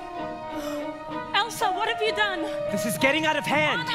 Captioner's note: gasps